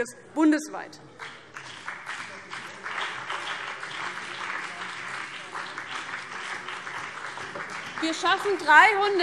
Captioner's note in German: Beifall BÜNDNIS 90/DIE GRÜNEN